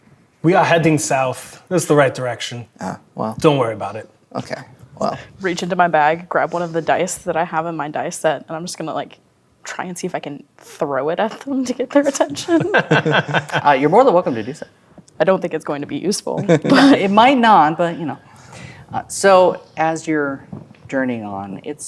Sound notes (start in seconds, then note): 12.7 players laughing